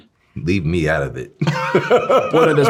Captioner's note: both laughing